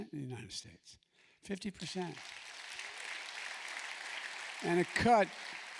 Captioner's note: applause